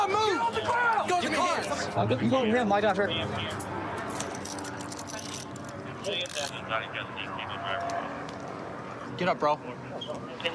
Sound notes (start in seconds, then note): 5.0 dispatch chatter